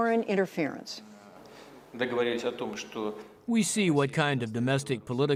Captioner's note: through translator